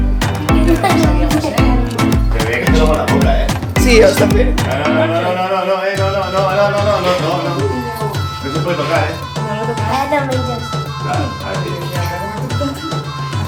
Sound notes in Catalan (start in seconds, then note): 2.4 castellà; 11.5 castellà